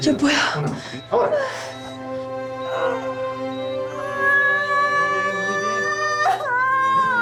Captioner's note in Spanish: Pujos y gritos